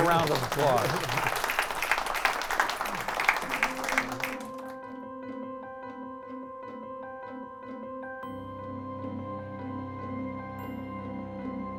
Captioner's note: applause